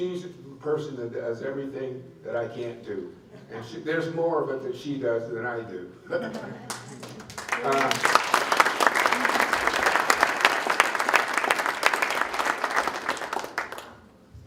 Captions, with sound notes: She's the person that does everything that I can't do. And there's more of it that she does than I do. (applause)